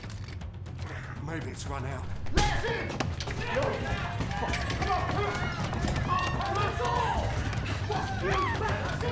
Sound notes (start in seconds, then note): 3.2 mob shouting; 3.4 mob screaming and baying